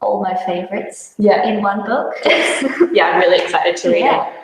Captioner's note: chuckles